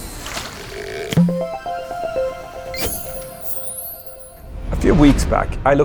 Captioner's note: playful chime